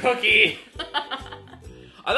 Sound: laughs

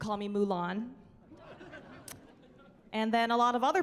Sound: chuckling

